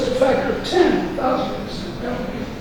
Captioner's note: rustling drowns out speaker